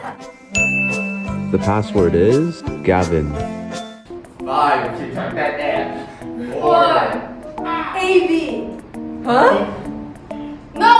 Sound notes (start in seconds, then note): 0.5 ding sound effect; 5.0 in Cantonese